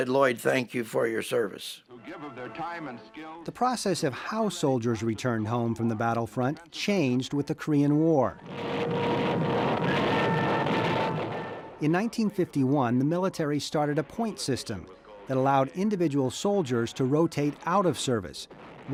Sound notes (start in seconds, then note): 8.5 artillery firing